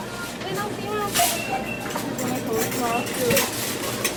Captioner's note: cart rattling